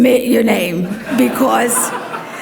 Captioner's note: audience laughs